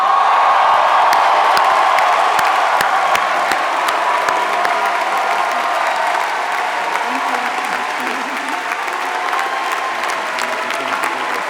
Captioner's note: applause